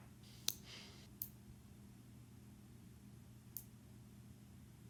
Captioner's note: fingernail clipper clicks